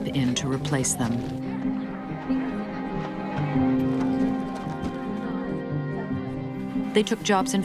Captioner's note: machinery rumbling